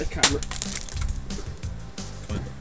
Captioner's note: stifled popping noise